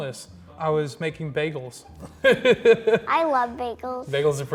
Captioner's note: laughs